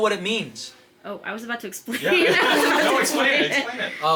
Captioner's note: laughs